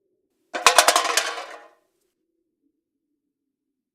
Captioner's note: loud sound of a Coca Cola can